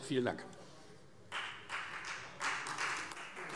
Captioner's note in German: Beifall Freie Demokraten